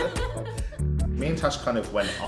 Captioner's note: laughs